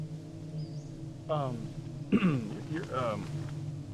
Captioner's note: clears throat